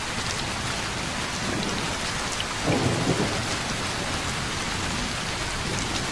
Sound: rain Sounds

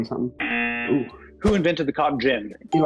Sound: buzzer

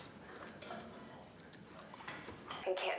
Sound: nom

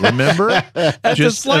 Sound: laughter

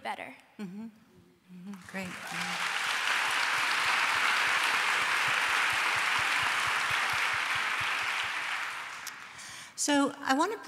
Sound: applause

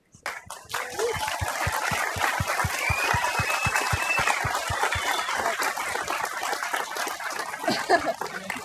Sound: applause

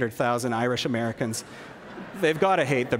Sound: laughter

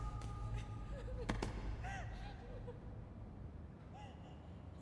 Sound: crying

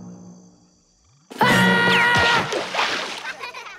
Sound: screaming

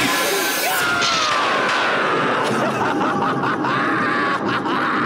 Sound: scream, evil laughter

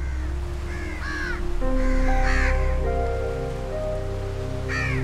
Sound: sea birds squawking

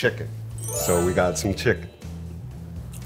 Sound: magical chiming

